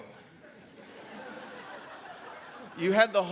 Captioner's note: audience laughs